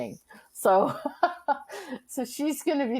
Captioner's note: laughing